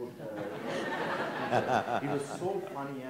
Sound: audience laughs

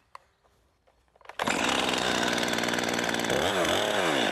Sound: chainsaw whirrs

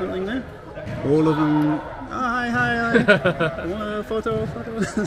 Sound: laughing

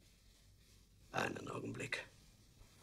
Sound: in German

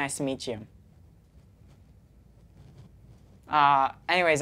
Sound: awkward silence

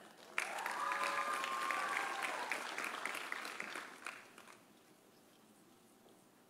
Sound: audience applauding; audience cheering

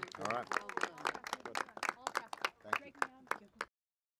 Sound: applause

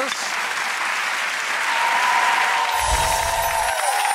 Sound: applause

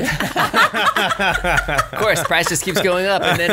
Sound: laughs

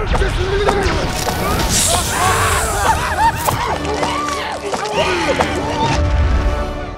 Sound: screaming, hissing and arrow shots

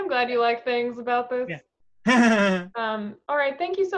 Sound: laughs

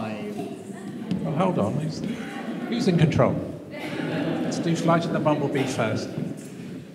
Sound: laughter

